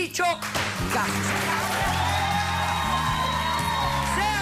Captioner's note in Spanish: gritos y exclamaciones; aplausos